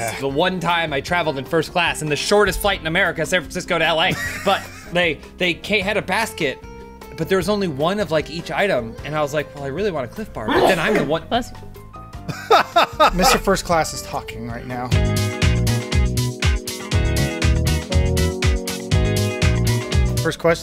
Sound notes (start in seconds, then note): 10.4 sneezes; 12.3 laughing